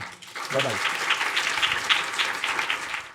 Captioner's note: audience applauding